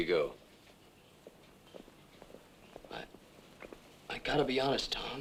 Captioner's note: horses clopping